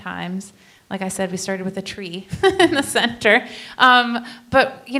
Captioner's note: laughs